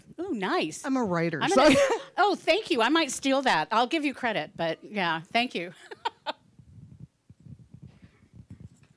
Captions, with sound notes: Oh, nice. >> I'm a writer, so... >> Oh, thank you-- I might steal that. I'll give you credit but, yeah, thank you. (laughing)